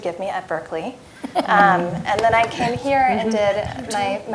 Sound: laugh

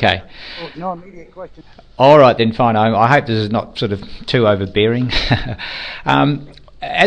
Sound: laughs

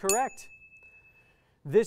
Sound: ding

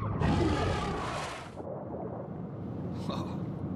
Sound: shark roaring

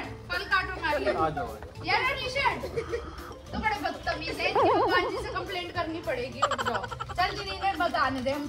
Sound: laughter

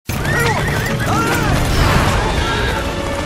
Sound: horses whinnying

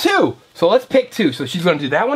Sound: voiceover

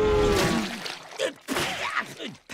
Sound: spitting

